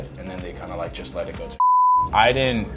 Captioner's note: beep